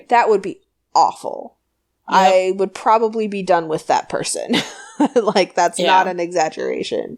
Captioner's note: laughs